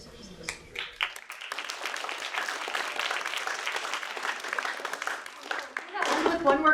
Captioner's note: applause